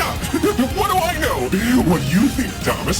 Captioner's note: laughs